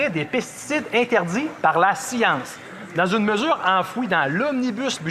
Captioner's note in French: voix de l'interprète